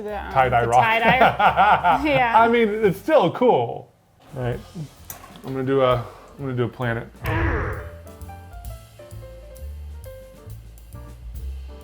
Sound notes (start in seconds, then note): 0.7 laughing; 7.2 rock thumping; 7.6 relaxing music